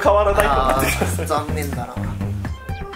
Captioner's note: laughs